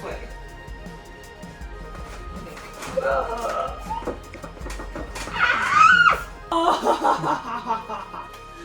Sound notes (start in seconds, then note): 5.2 pterodactyl noises